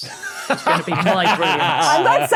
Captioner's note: laugh